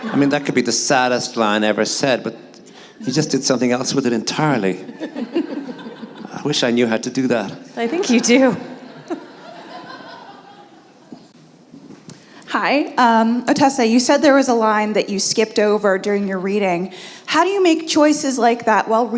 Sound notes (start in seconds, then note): 7.8 laughter